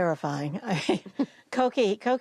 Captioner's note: laughter